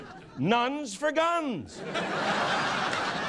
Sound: laughter

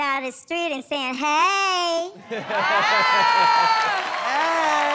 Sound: cheers and applause

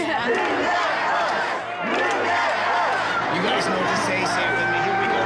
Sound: crowd chanting "move that bus"

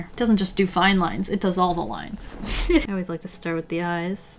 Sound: laughs

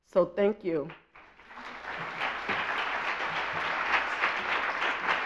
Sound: audience applauds

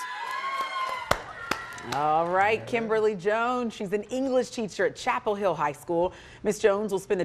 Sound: cheering and Applause

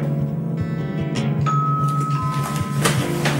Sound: bell

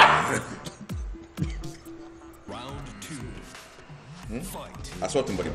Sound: laugh

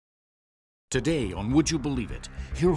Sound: voiceover

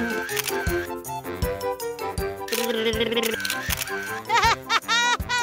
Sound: camera flashing noises

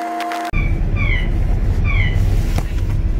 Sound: lift siren

